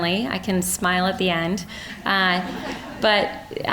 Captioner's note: audience laughing